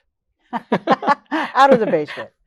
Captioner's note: laughing